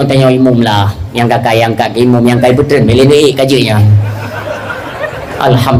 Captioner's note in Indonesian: tertawa